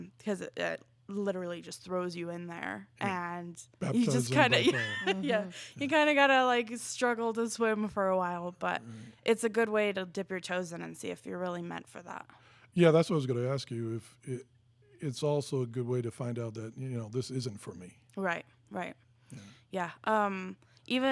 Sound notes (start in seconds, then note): 3.9 laughing